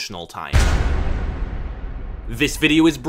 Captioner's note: boom